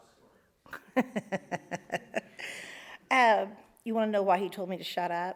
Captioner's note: laughs